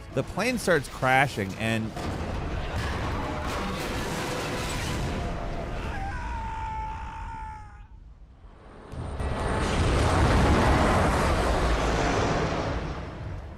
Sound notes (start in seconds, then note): 5.7 Nathan screams; 8.8 plane whooshing